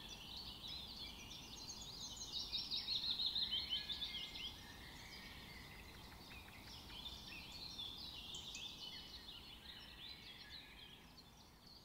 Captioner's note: bird sounds